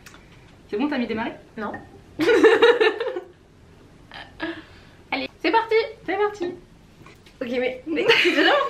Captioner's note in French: rires